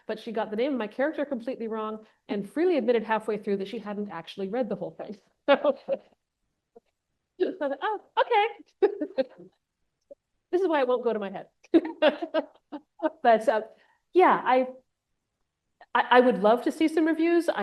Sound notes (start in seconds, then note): 8.8 laughs; 11.7 laughs